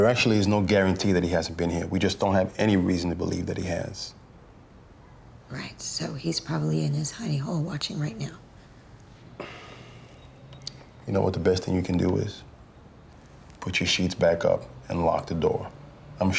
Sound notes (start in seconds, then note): 9.2 exhales